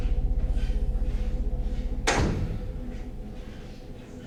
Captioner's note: door slams